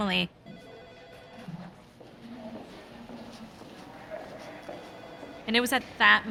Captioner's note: phone ringing